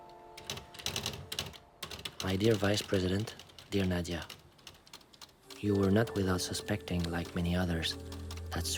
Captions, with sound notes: (typewriter keys clack) "My dear vice president, dear Nadia, you are not without suspecting, like many others, that,